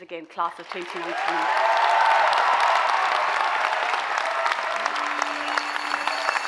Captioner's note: audience cheers and applauds; synthesized music